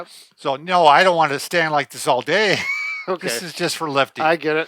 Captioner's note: laughs